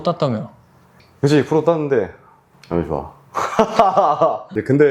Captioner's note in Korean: 웃음